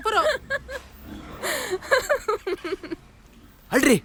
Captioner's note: laugh